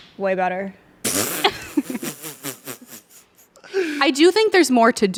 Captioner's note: everyone laughs